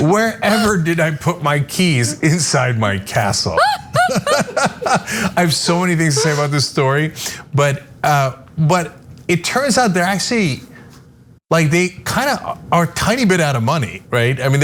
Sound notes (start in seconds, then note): 3.4 laugh